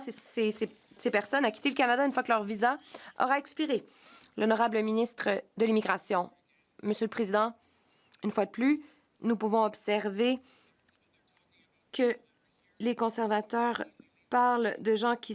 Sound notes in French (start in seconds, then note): 9.0 voix de l'interprète